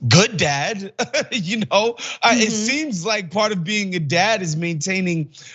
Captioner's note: laugh